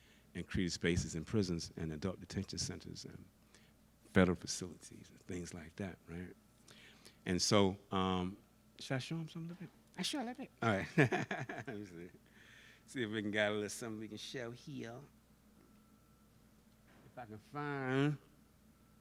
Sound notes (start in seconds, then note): 10.8 laughs